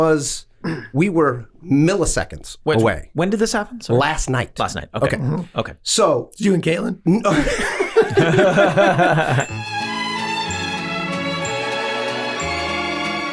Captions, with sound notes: - We were milliseconds away. - When did this happen? - Last night. - Last night. - Okay. - Okay. - So you and Caitlin. (all laughing) (soft instrumental music)